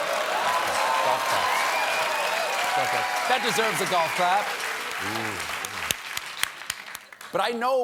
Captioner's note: applause